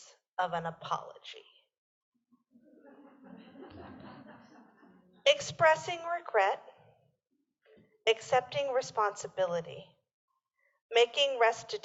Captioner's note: laughter